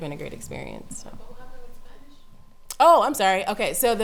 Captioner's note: voiceover